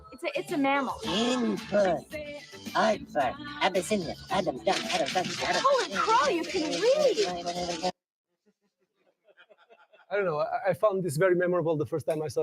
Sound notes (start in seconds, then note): 3.4 vocalizing; 9.0 laughter